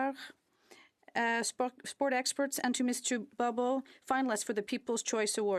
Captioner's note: speaking French